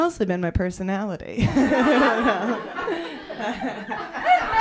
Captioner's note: laughter